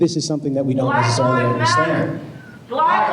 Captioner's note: chanting